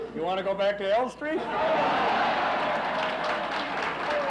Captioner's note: laughs; applauses